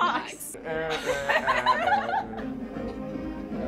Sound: laughter; humming; laughter

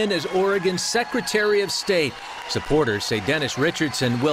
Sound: applause

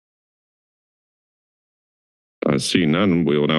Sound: silence

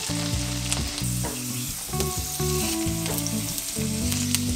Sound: sizzle

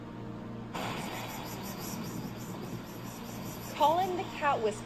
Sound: hissing and cat calling

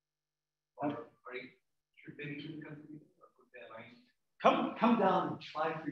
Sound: man speaking away from the mic

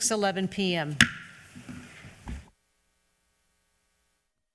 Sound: gavel tapping

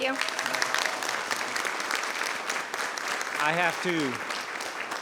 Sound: people clapping

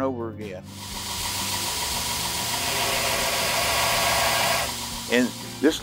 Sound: grinding noises

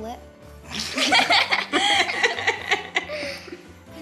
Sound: laughing noises

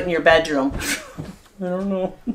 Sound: laughing

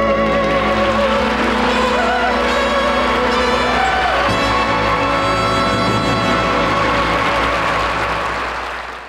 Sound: audience applauding

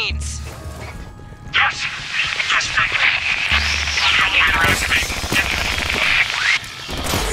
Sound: static

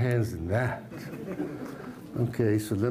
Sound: laughter

